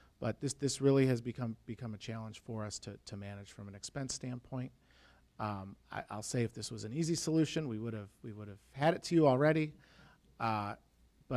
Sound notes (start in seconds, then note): none